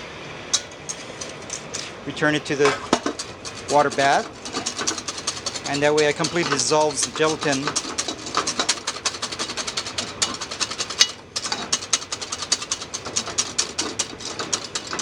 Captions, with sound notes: Return it to the water bath, and that way I completely dissolve gelatin (whisking ingredients)